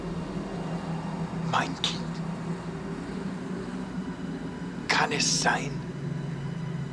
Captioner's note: speaking german